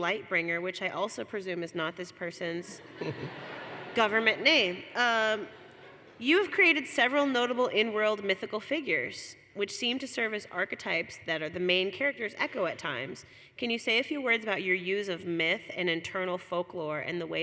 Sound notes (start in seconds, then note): 5.5 laughter